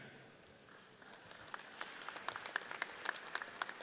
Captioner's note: audience applauds